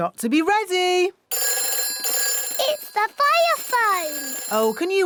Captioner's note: phone rings